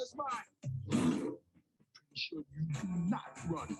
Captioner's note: bear roars